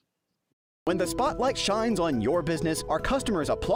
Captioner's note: voice-over